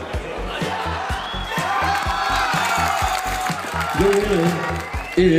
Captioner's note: team cheering